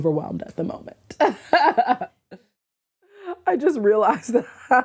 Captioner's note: laughs